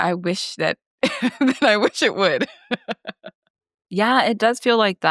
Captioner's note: laughs